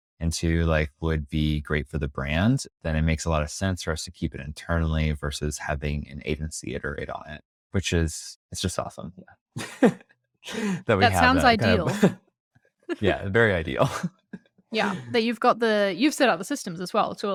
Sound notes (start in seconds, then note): 10.5 laughs